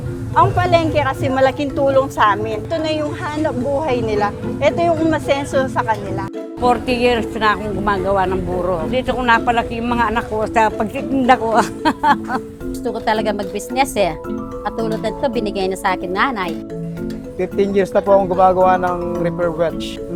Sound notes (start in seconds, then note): 11.0 laughs